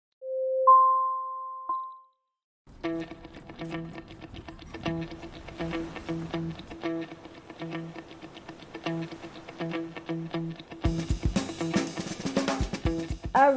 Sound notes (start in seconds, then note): 0.0 jingle; 2.6 funky guitar music; 5.5 surf rustling; 10.8 energetic drumbeat